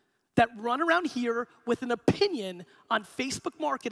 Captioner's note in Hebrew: none